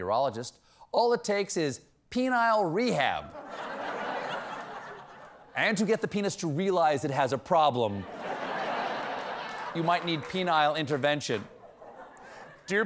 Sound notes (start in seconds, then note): 3.3 laughter